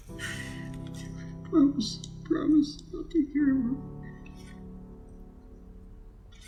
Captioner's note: sobs